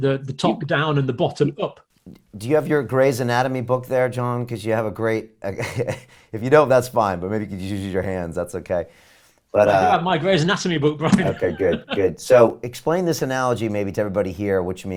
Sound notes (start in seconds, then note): 11.1 laughs